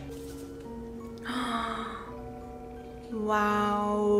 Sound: gasps in aw

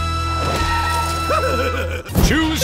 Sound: giggling

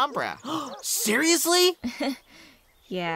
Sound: twilight gasps

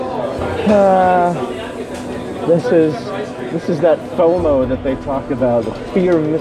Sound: sighs

